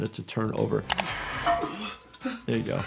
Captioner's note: IShowSpeed panting